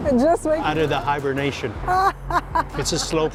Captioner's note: laughs